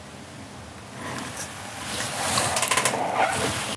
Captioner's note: creaking